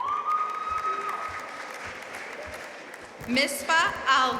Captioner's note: audience cheering and applauding